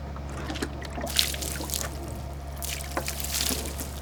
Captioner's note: water splashing